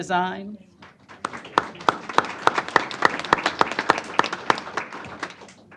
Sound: applause

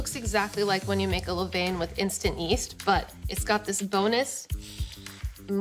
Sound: sniffs

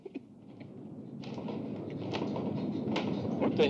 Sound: rumbling

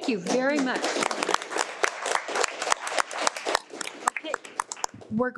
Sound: audience applauding

